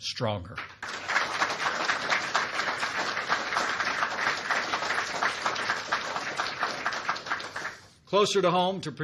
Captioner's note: applause